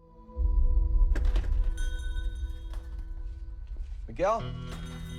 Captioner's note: suspenseful music; bell chiming